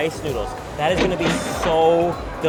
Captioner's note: register chiming